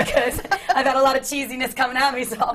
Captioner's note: laughter